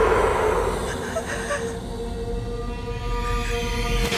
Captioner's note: Sara crying